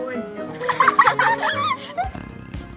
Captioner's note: children laughing; bulldog snoring; fun music